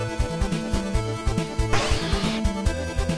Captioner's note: high-pitched scream